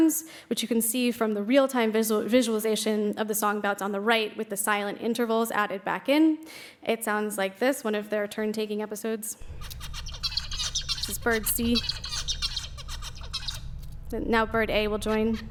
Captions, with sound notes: which you can see from the real-time visualization of the song bout on the right with the silent intervals added back in. It sounds like this, one of their turn-taking episodes. [birds singing] Bird C. [bird singing] Now bird A will join.